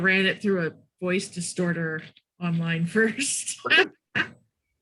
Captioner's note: laughs